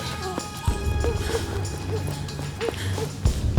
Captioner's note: gasping